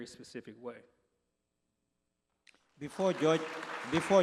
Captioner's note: applause